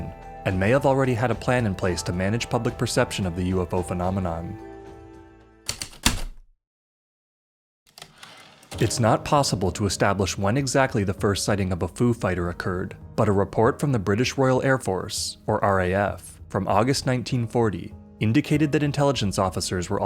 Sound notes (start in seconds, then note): 5.6 heavy typewriter keystrokes, return slide